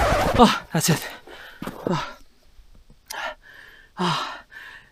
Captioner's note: sigh